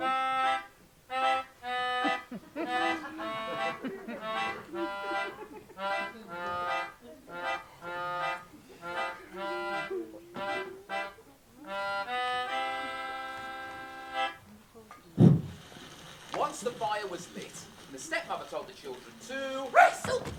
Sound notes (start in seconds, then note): 15.2 whooshing fire noise